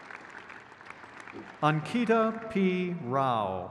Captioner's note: crowd cheers